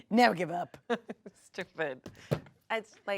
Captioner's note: laughs